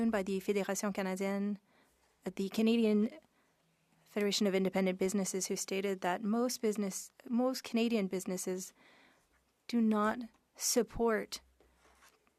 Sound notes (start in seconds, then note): 5.8 speaking French